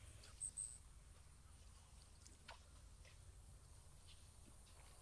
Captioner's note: birds chirping